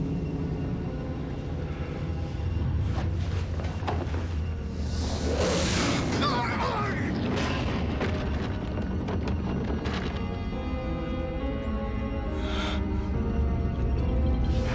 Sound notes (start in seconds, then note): 4.5 hisses